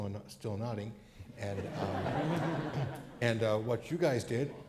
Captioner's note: crowd laughs